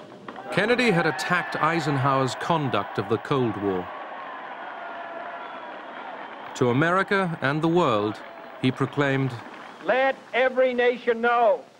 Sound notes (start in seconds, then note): 4.1 applause